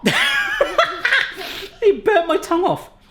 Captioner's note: laughing